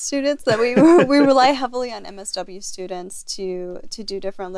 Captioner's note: laugh